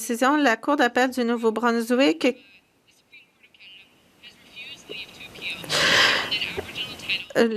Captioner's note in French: voix de l'interprète